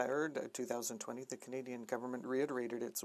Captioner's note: speaking FRENCH